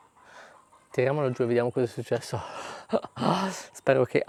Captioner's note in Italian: sospiri